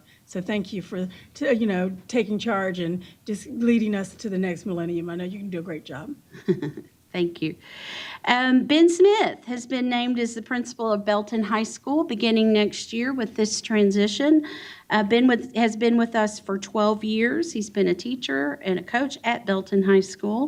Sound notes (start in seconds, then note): 6.2 chuckles